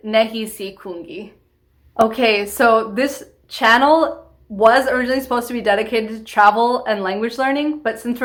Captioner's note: in English